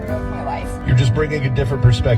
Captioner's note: radio Announcer